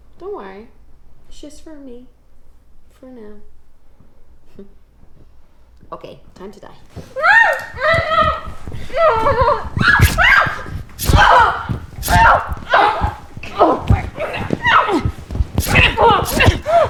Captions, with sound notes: Don't worry, it's just for me for now. Okay, time to die. (Jessie screams) (knife stabbing)